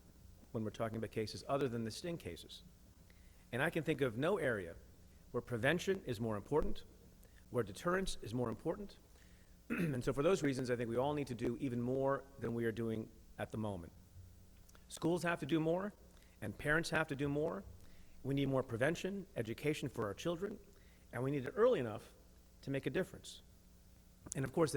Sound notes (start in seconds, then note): 9.7 clears throat